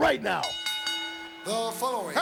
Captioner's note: bell rings